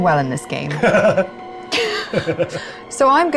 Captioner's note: chuckles